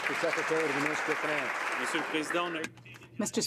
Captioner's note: some Applause